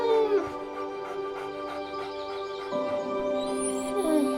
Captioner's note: dogs whining; gentle music; dogs panting